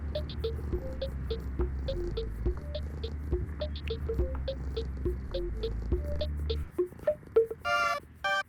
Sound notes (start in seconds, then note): 2.0 Cauliflower purring